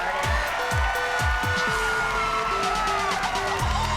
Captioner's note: applause